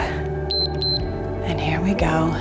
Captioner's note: timer beeps